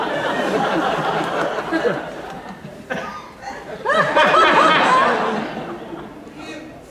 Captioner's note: laughter